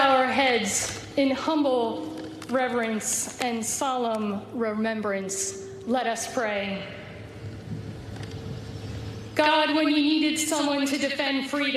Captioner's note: speaking global language